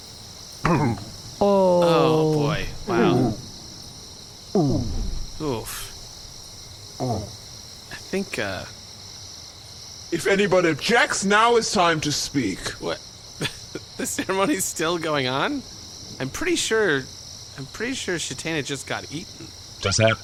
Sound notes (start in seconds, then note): 13.4 laughing in disbelief